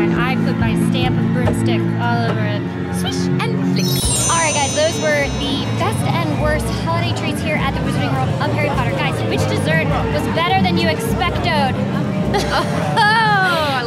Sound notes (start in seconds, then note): 3.7 chimes; 12.3 laughing